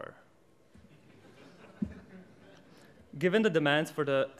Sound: audience laughs

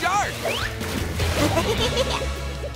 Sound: giggling

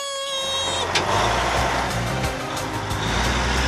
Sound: engine Revs

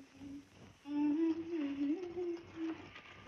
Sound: humming

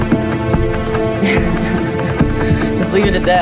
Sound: laughing

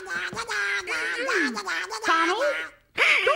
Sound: Donald taunting humming; Donald startled quacking

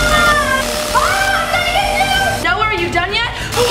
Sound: vacuum whirring; screaming

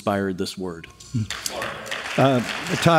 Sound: applause

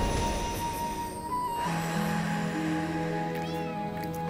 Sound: deep breath

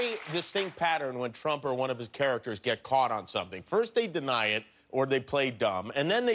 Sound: cheers and applause

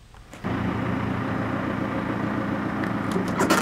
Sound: engine running

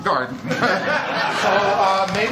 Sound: laughter

